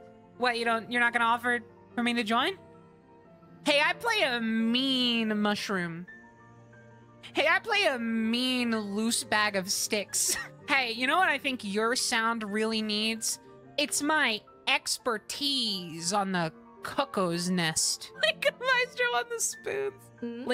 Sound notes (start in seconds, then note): 9.9 laughter